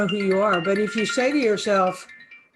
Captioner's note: phone ringing